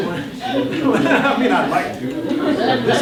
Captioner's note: responsive murmuring